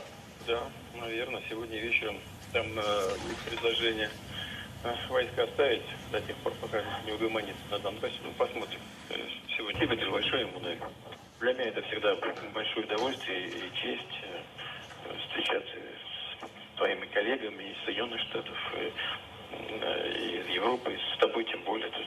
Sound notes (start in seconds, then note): 0.2 putin, in russian; 9.9 putin, in french; 11.9 putin, in russian